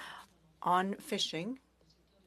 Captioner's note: speaking in French